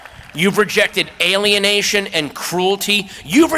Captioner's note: applause